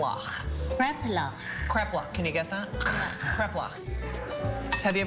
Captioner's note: makes guttural sound